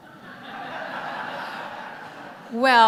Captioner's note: audience laughter